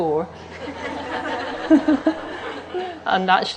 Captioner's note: audience laughing